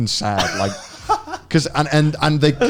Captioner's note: laughing